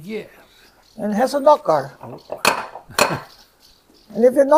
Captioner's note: knock knock